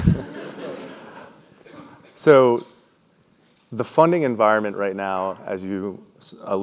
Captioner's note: laugh